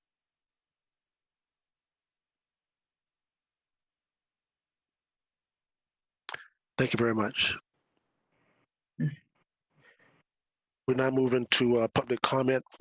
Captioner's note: moment of silence